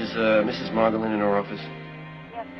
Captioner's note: on phone